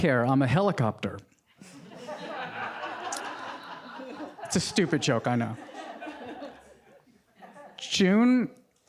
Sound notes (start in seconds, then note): 1.6 audience laughing